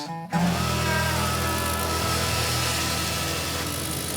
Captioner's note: chainsaw buzzing